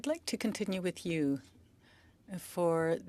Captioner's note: speaking French